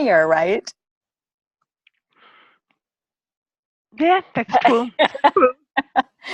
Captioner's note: laughter